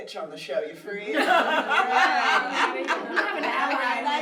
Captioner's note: everyone laughs